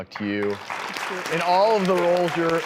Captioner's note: audience claps